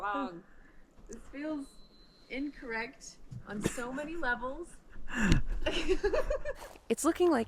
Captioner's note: laughs